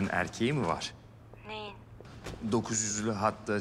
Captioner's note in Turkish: Yağmur ses